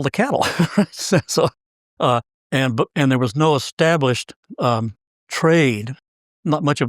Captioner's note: laugh